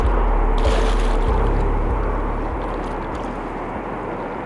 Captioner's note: wind whooshing